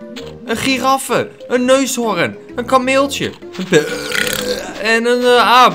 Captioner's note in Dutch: boert